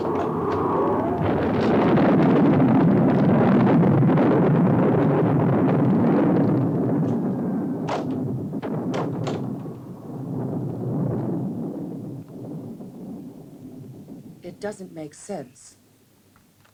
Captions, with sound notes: (wind whooshing) (thunder rumbling) (door closes) It doesn't make sense.